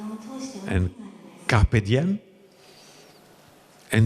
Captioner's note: Latin